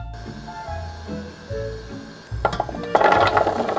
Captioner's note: burner humming